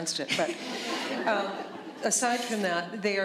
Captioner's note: laughter